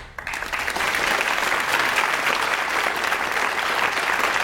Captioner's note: audience applauds